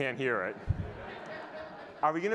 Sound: audience laughing

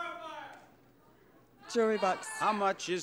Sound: crowd shouting

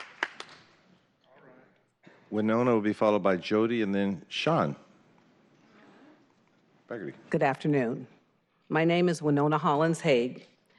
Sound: applause

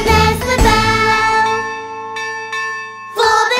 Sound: bell ringing

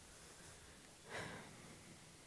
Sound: deep breath

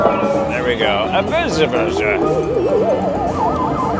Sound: drunken Mumbling Impression

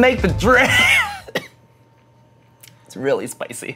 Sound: coughs

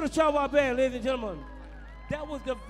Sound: crowd cheering

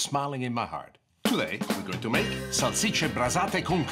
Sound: foreign language

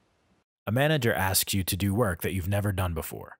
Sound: voiceover

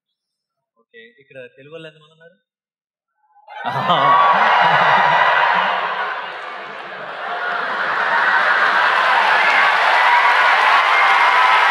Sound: cheers/Applause

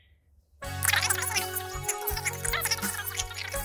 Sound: music and fast-forward sound

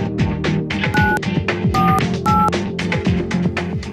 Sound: dials tone

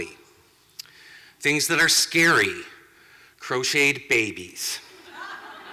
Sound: laughter

